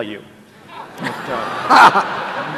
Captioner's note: laughter